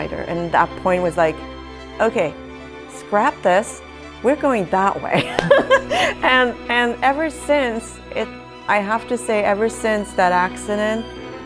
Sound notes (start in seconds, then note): 5.2 laughs